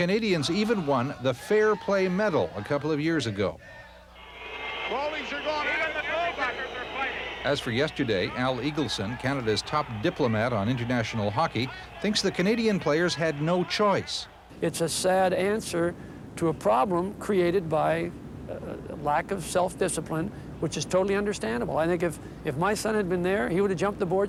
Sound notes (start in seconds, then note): 6.7 crowd boos